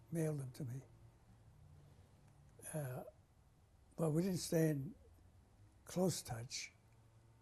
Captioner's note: pauses for 3 seconds